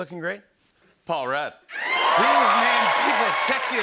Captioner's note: cheers and applause